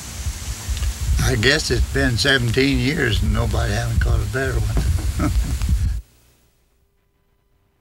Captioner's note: chuckles